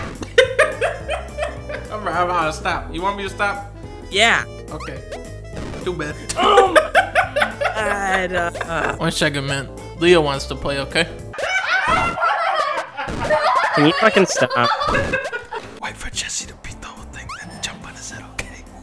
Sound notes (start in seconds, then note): 0.2 laughing; 6.3 laughing; 11.3 laughing hysterically; 16.0 whispering